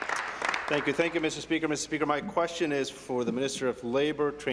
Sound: applause

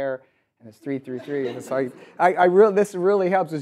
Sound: audience laughs

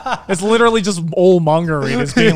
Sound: laughs

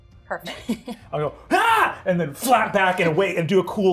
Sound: screams

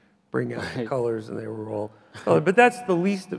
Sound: chuckles softly

